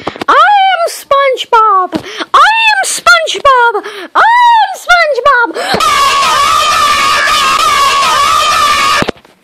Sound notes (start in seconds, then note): 5.6 anger